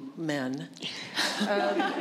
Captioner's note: laughter